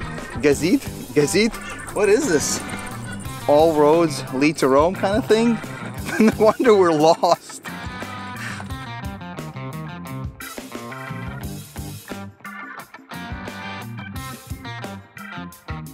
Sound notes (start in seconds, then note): 4.8 laughing